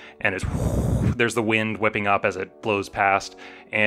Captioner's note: blows into microphone